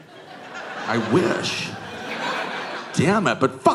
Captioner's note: audience laughing